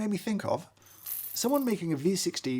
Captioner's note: coffee beans rustling